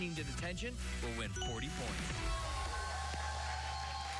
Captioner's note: cheers and applause